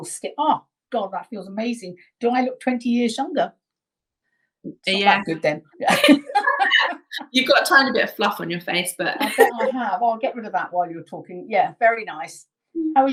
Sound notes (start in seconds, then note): 5.9 both laughing; 9.2 laughing